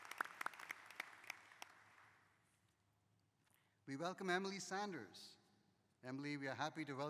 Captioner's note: applause